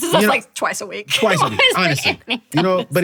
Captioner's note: chuckles